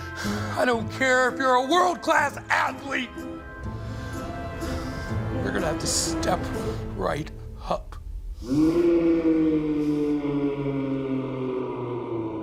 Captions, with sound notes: I don't care if you're a world-class athlete. You're going to have to step right up. (roars)